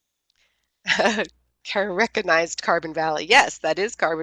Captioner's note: laughs